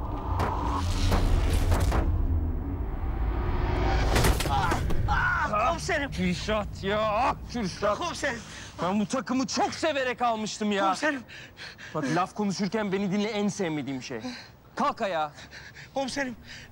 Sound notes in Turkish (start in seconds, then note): 0.0 Müzik - Gerilim; 3.6 Düşme sesi